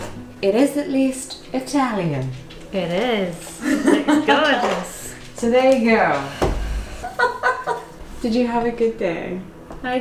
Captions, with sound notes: It is at least Italian. - It is. (laughing) It's good. - So there we go. (laughing) Did you have a good day?